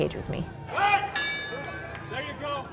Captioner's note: ding